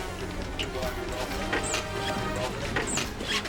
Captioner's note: thrilling music continues; shoes squeaking